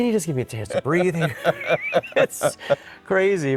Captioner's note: both laughing